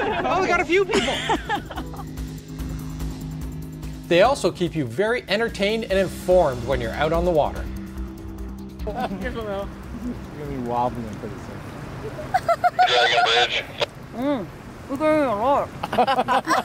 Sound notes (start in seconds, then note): 0.0 laughing group; 8.8 chatter; 12.0 woman laughing